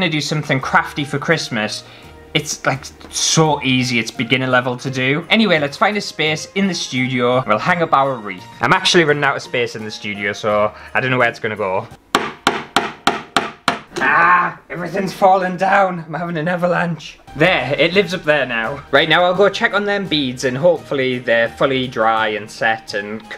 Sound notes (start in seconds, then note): 12.1 hammer Sounds